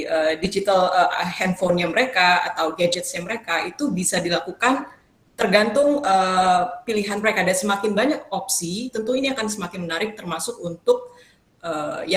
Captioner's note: speaking indonesian